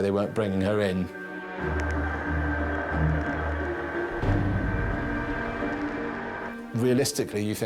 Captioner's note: intense music; boat droning